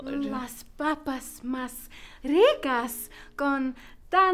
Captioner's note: in Spanish